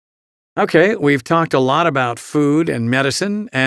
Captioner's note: voiceover